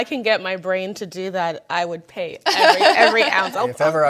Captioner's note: panelists laughing